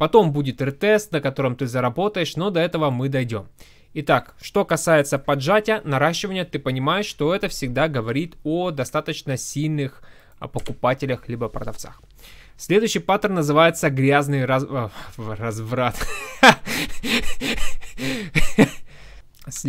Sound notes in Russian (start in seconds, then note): 15.9 смех